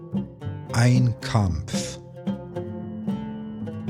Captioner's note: german